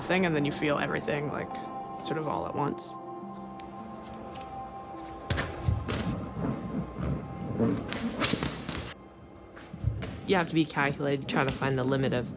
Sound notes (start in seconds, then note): 5.6 sounds of jumping